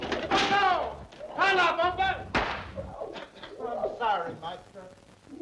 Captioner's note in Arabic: يصرخ